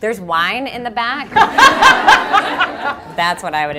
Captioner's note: laughter